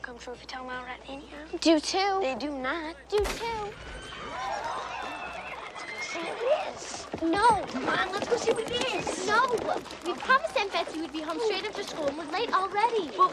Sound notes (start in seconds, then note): 3.1 gun firing; 4.7 crowd cheering